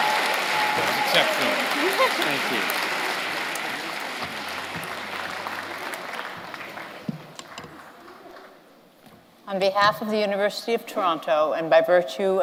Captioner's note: cheers and applause